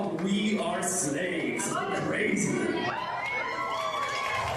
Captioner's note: Folla che esulta